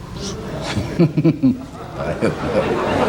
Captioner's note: Se ríe entre dientes; El público se ríe y aplaude